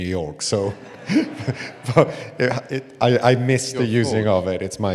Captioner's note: laughs